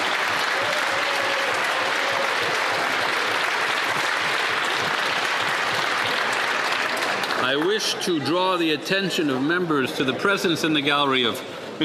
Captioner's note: applause